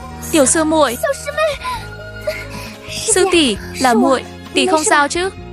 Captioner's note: khóc